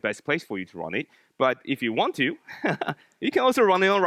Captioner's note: laughs